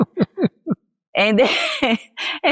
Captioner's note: laughs